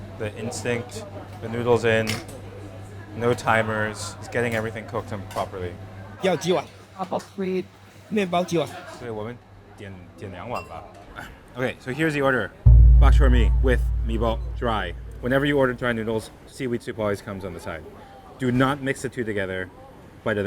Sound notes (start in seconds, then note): 6.3 speaking in Mandarin